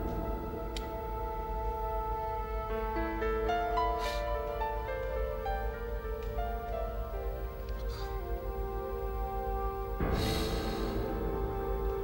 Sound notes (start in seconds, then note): 4.7 Martin sobbing quietly; 8.1 haunting orchestral music